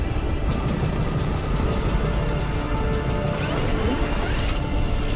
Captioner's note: aircraft whirring